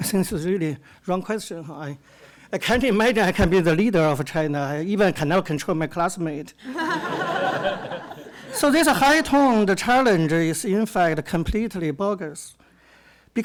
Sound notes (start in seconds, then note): 6.6 audience laughs